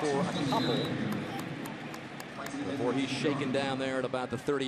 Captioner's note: pa announcement